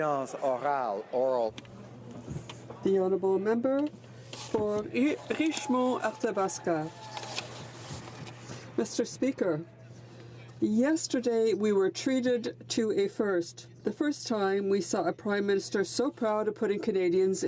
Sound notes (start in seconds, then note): 4.3 speaking French